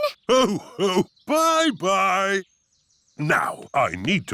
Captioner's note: laughs